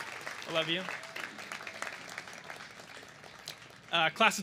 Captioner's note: cheers and applause